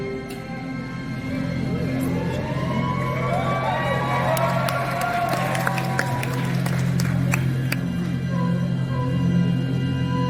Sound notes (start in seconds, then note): 2.0 audience cheers and claps; 8.0 suspense music